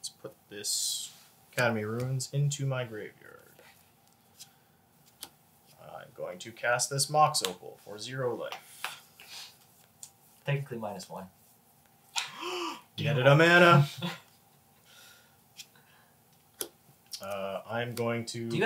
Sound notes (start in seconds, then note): 12.2 gasps